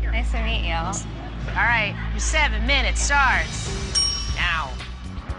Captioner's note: bell dings